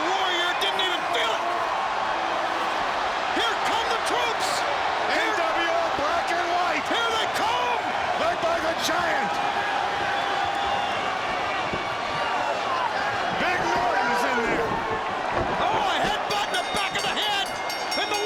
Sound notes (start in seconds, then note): 10.5 audience cheering